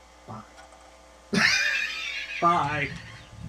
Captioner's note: laugh